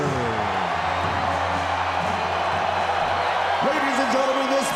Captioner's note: crowd cheering